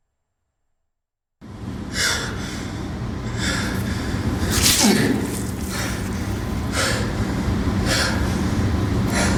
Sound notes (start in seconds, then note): 1.3 Chris heaving; 4.4 knife slices; 4.6 Chris grunts